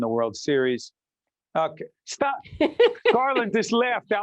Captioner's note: laughing